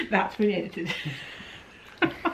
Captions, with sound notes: - That's being edited. (laughs)